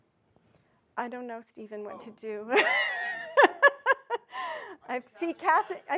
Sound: laughs

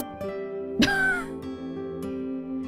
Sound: scoffs

